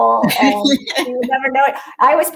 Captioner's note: laughs